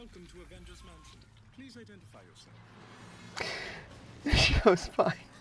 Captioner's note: sound of show in background